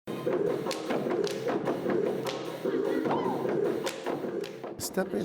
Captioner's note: stomping and clapping